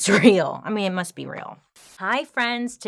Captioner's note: static crackling